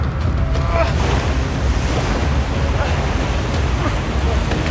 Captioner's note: water rushing; man grunting